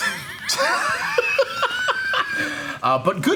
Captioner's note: group laughing